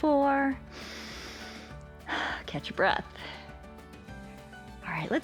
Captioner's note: inhales and exhales